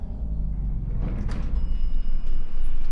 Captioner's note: elevator bell dings